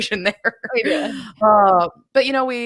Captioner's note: laughs